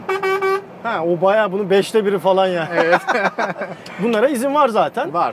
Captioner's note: laughings